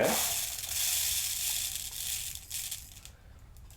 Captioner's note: rice rattles